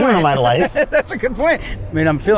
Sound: laughs

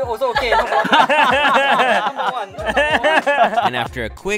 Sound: all laughing

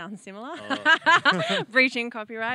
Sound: laughs

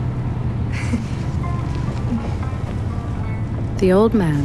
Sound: chuckle; embarrassed chuckle

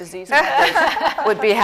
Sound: laughter

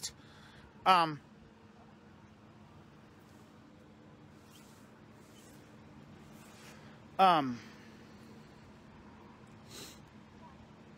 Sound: Ava stammers

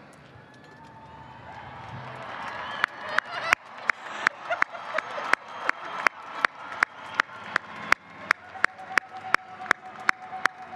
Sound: applause

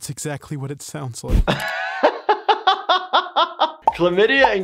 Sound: laughs

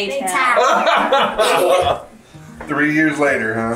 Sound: laughing

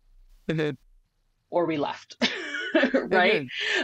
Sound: lauggs

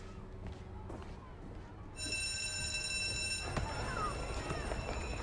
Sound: class bell ringing

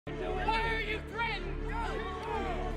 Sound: crowd

